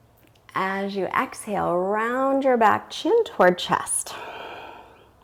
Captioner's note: exhales